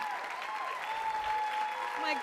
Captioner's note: applause